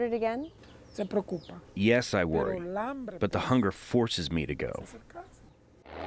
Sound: through translator

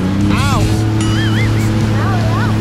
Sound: engine rumbling

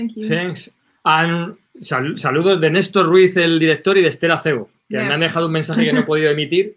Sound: speaking in foreign language

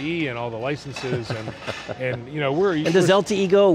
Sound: chuckles

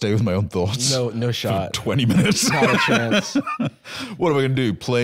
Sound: laughing

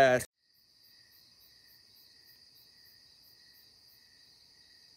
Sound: crickets chirping

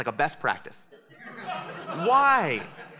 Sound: laughter

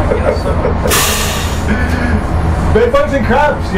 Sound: laughs

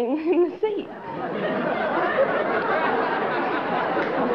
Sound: laughter

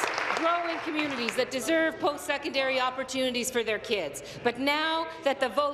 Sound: applause

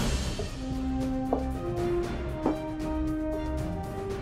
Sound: door opens; boots click

